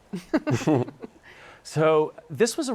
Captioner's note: laughing